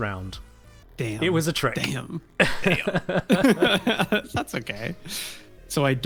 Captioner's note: both laugh